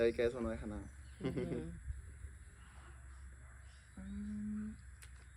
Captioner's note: laughter